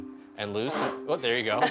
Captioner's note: fart